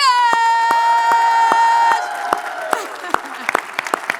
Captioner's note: audience cheering; laughing